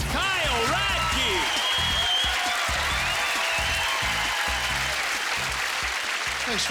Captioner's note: cheering